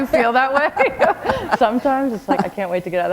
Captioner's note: laughter